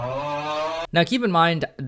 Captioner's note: crowd booing